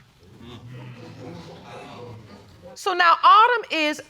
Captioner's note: audience clamoring